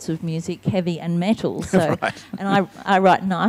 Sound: laughing

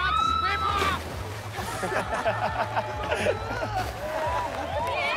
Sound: laughter

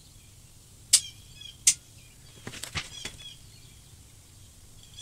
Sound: birds screeching; metal clicking

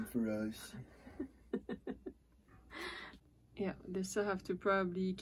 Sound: laughters

